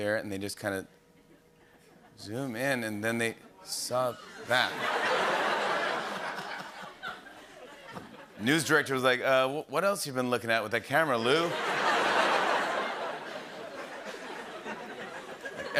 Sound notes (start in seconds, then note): 4.1 laughter; 11.2 laughter